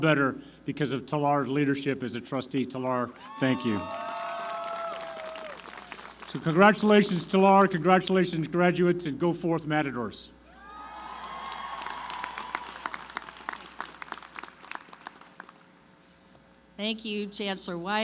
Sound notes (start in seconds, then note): 5.6 applause; 14.9 applause